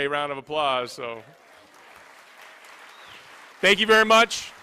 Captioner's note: applause